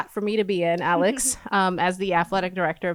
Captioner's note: lauging